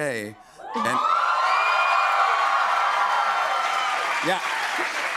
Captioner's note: cheers and applause